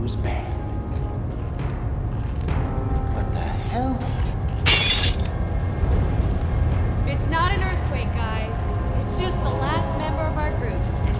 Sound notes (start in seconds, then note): 0.9 dramatic music; 4.0 glass shattering